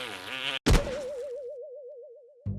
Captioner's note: boing